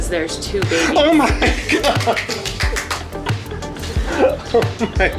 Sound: gasps

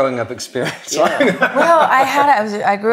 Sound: laughs

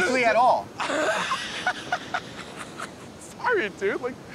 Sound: laughs

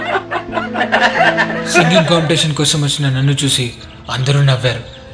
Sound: people Laugh

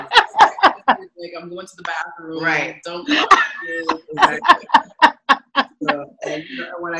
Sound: laughing; laughing

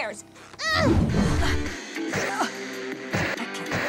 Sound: grunting

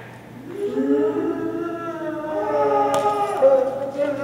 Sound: moaning

